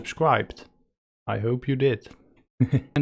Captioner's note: chuckle